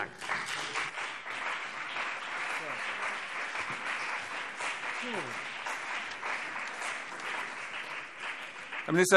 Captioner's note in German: Beifall CDU und BÜNDNIS 90/DIE GRÜNEN